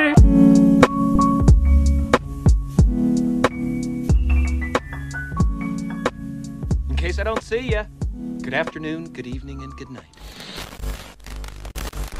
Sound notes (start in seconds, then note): 0.3 lo-fi music; 7.0 male Voice